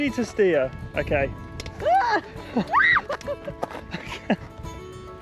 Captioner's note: screams